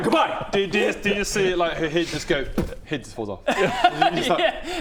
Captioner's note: boof